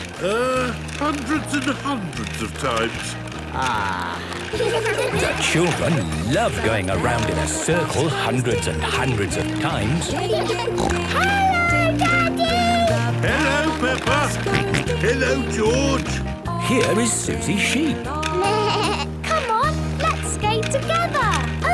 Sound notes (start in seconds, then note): 10.7 snorting; 14.6 George snorting; 18.4 bleating